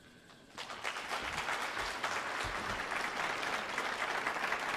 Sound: audience applauding

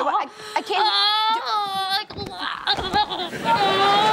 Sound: moaning

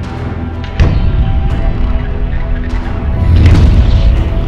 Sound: lighter rumbling

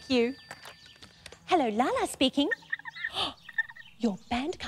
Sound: gasps

